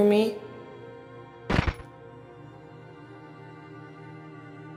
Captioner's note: shot firing